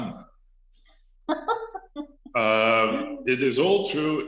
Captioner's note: laughs